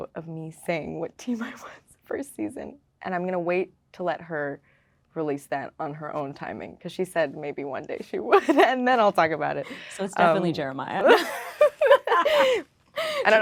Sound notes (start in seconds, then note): 8.6 laughing; 11.1 laughing